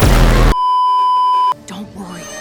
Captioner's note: beeeeeep